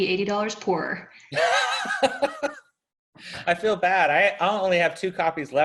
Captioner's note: laughs